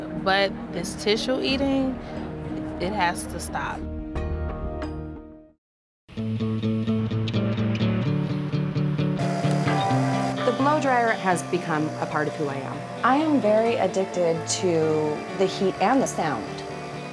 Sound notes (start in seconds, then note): 9.2 blow dryer whirring